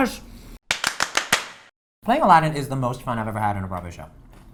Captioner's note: claps